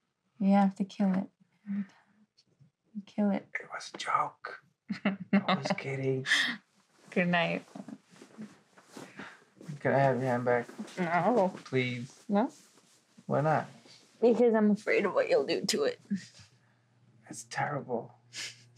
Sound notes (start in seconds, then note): 4.9 she chuckles; 8.8 rustling; 18.1 she chuckles